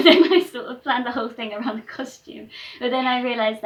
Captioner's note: laughter